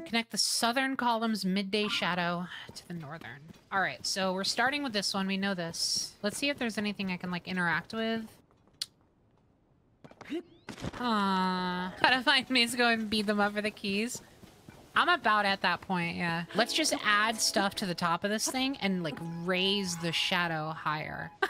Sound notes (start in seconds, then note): 8.7 lip Smack